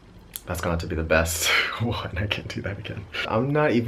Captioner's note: chuckling